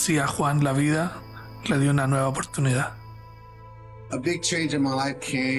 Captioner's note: narrator speaking Spanish